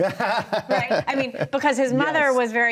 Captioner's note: laughs